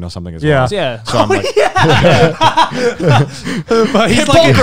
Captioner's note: laughs